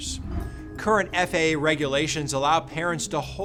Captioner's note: graphics whooshing